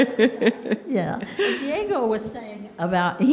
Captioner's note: laughing